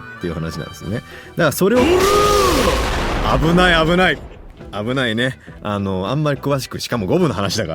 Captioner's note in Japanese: 叫び声